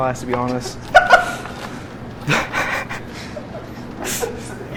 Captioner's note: cook cackles